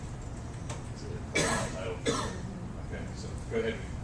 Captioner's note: cough